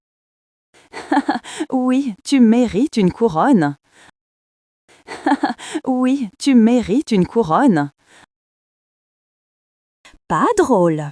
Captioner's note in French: rire